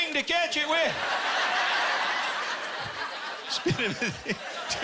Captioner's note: laughter